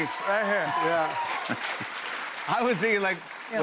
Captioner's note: applause